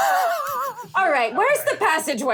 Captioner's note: laughing